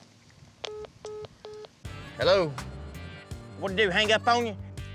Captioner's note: phone beeps